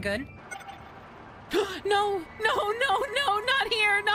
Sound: gasp

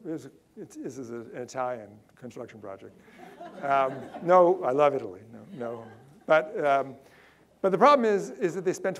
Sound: audience laughter

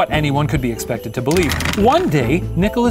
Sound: rattling

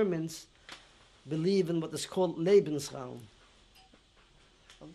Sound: german

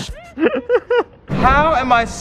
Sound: laughter

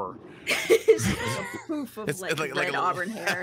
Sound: all laugh

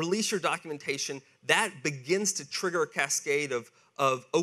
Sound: none

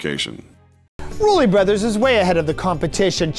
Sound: voiceover

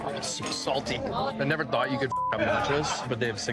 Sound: beep

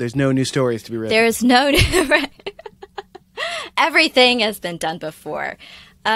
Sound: laughter

